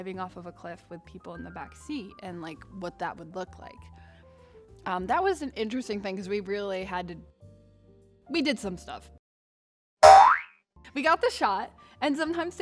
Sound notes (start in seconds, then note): 10.0 boing